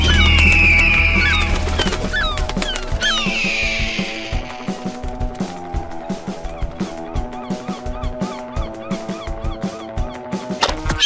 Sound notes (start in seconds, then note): 0.1 wings flapping; 1.8 gull crying out; 7.1 gulls squawking; 10.6 catapult snapping